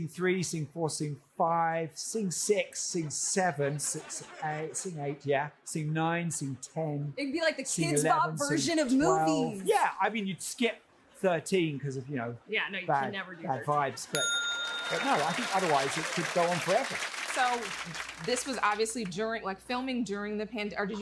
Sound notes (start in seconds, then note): 14.1 ding; 14.6 laughter and applause